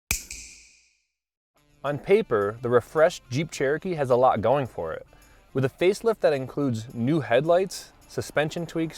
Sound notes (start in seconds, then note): 0.1 snap